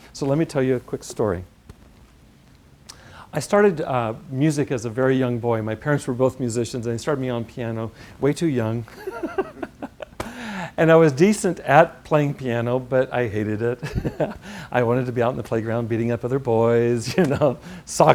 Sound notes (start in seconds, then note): 8.9 laugh; 13.8 laugh